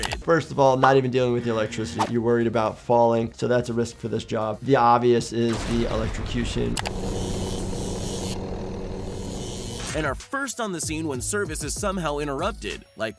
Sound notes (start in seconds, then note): 6.0 electric buzzing; 6.7 helicopter blades whirring